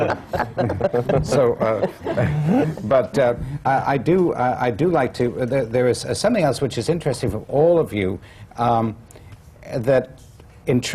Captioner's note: laughter